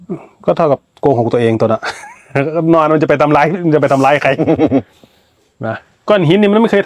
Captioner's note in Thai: เสียงหัวเราะ